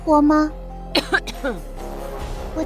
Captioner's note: cough cough